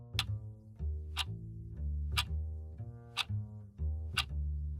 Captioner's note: clock ticking